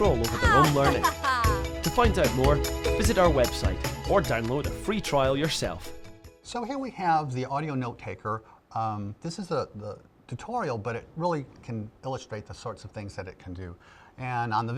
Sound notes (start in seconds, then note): 0.3 laughing